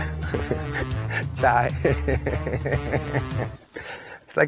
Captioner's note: laughing